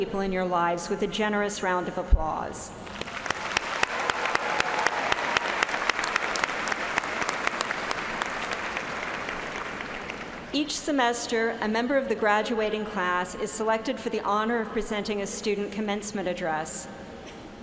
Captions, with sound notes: DEGREE CANDIDATES, PLEASE JOIN ME IN SHOWING YOUR APPRECIATION FOR THESE VERY IMPORTANT PEOPLE IN YOUR LIVES WITH A GENEROUS ROUND OF APPLAUSE. [ CHEERS AND APPLAUSE ] EACH SEMESTER, A MEMBER OF THE GRADUATING CLASS IS SELECTED FOR